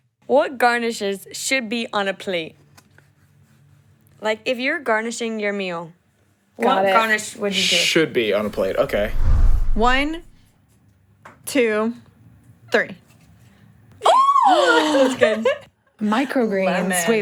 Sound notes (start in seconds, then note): 8.4 air whooshes; 14.7 laughs